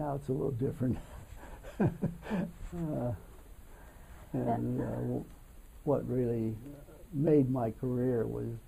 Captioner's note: laughs